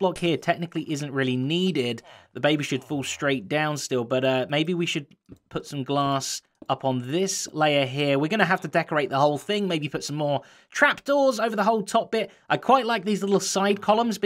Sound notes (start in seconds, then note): none